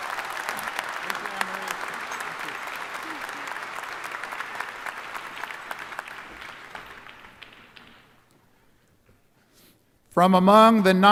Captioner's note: applause